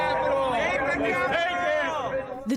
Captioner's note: cheering and applause